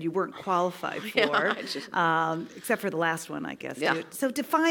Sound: laugh

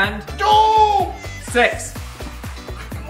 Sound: groans

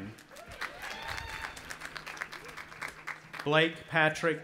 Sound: audience applauding and cheering

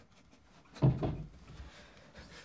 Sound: thud

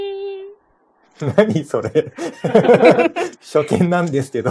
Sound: laughs

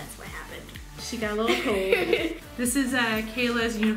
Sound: laughing

